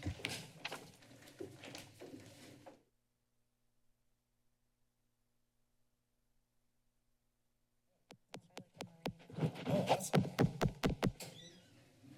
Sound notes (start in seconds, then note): 3.1 silence; 8.7 background chatter; 10.5 microphone loud thumping